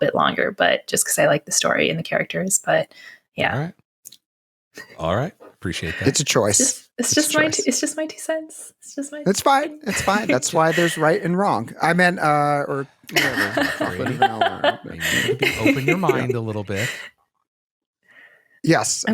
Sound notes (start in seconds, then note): 13.1 giggles